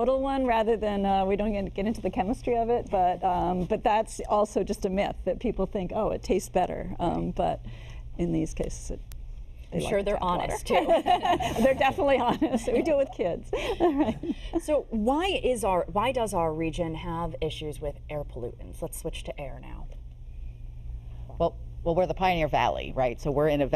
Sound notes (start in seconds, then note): 13.5 laughter